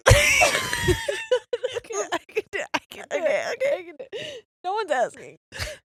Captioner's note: laughing